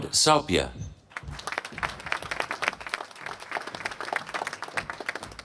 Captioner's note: applause